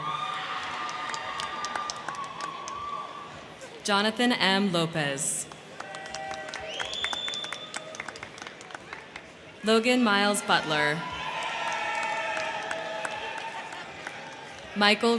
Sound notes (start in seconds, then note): 0.0 crowd cheering; 0.1 crowd clapping; 5.4 crowd clapping; 5.6 crowd cheering; 11.1 crowd clapping